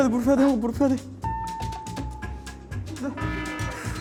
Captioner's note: screaming with every facial feature